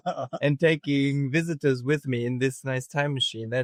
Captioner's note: laughing